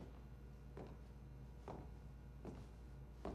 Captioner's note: footsteps approaching